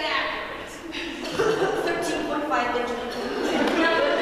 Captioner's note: cough cough